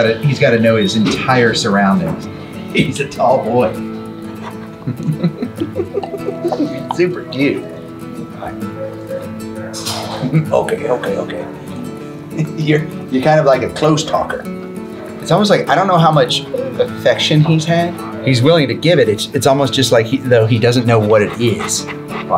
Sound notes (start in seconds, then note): 4.4 chuckling